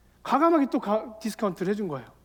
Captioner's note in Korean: none